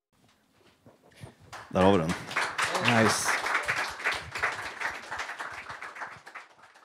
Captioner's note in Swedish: Applåder